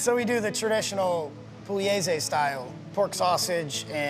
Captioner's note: speaking in foreign language